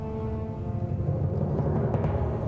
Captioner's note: aircraft noise